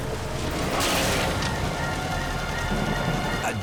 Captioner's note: car clangs